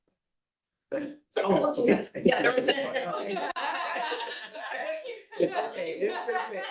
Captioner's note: board members laughing and chattering